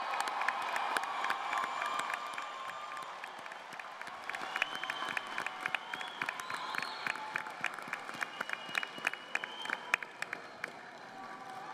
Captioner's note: cheers and applause